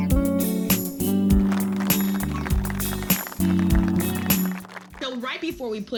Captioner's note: upbeat music; audience applauds